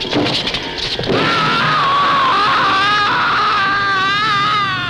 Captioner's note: screaming